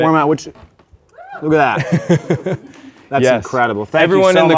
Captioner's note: laughs